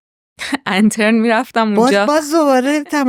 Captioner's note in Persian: خنده